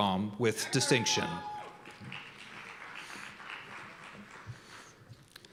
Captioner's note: cheers and applause